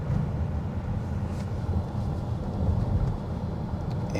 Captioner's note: car engine